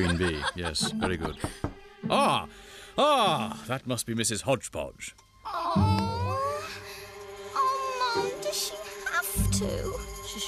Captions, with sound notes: QUEEN BEE, YES, VERY GOOD. ( Knocking ) AH! AH, THAT MUST BE MRS. HODGEPODGE. ( Groaning ) OH, MOM, DOES SHE HAVE TO?